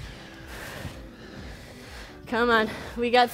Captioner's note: breathes heavily